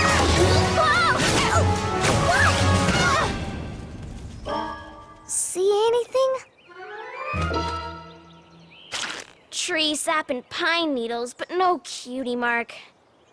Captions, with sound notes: Whoa! Oh! Whoa! [ All groan ] See anything? Tree sap and pine needles, but no cutie mark.